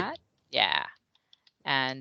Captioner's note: typing sounds